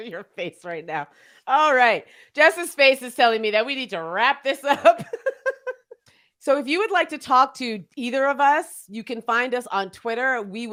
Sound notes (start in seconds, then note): 5.0 laughs